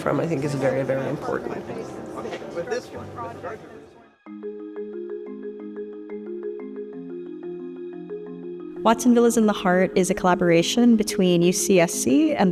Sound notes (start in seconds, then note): 2.6 people chattering; 4.3 bright music